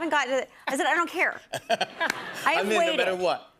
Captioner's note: laughter